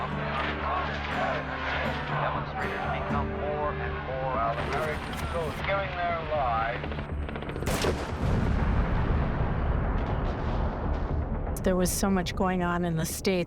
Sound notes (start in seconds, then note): 6.6 helicopter whirring; 7.6 explosion booming